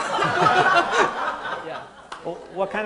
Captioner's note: audience laughing loudly